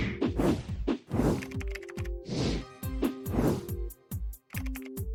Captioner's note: keyboard clacking